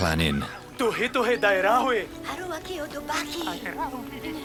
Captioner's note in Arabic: الصوت المنطوق البدوي